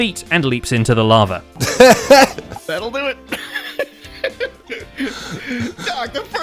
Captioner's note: laughs